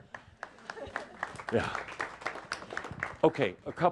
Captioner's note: some applause